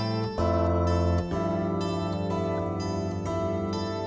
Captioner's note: none